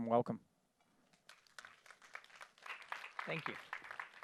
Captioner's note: applause